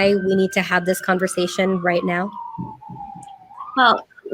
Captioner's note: siren blaring